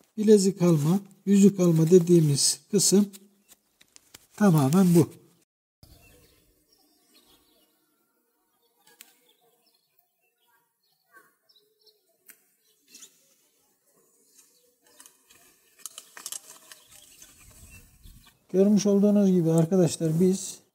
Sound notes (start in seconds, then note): 5.8 external sounds and bird sounds